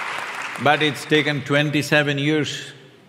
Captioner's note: laughter/Applause